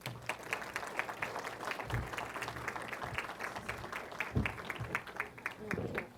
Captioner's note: applause